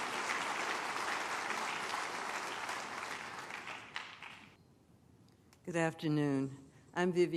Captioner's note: applause